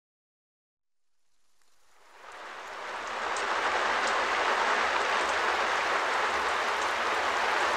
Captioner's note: White Noise